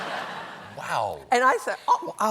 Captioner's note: laughter